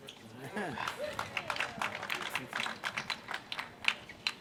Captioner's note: applause